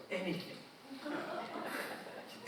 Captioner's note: audience chuckling